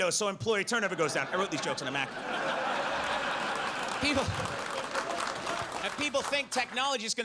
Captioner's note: audience laughs